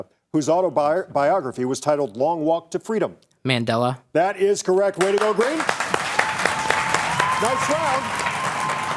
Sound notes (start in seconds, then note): 4.9 audience applauds